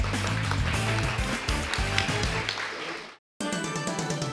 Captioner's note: upbeat music; audience applauding; dramatic music